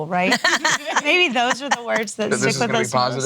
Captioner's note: laughing